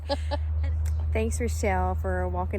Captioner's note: footsteps stop